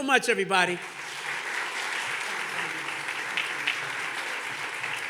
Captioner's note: audience clapping